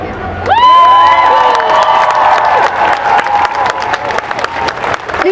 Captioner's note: applause